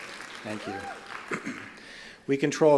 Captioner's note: applause